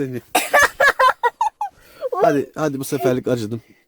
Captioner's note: laughing